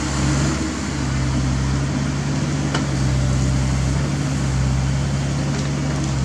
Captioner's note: diesel rumble